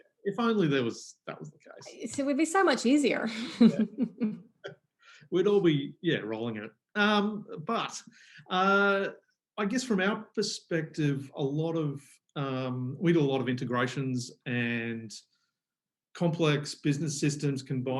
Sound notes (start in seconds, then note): 3.4 laughs loudly